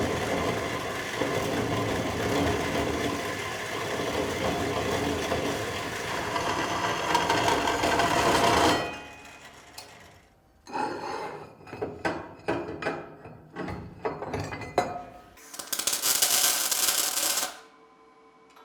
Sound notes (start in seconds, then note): 10.8 metal screeching; 15.4 metal sizzling